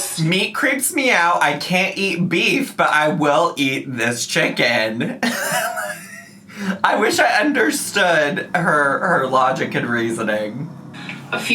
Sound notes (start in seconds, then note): 4.6 laughing